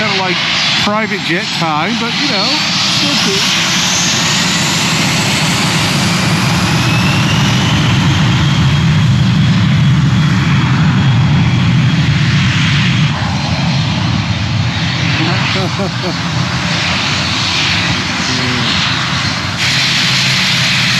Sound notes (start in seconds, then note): 15.0 laughs